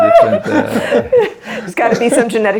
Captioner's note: laughing